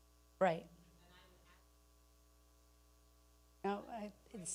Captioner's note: speaking away from mic